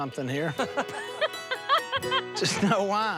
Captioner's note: laughter